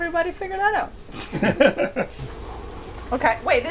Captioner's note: everyone laughs